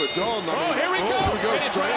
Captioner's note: bell rings